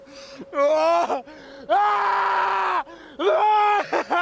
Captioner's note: yelling